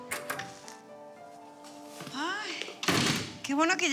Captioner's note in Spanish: sonido al abrir la puerta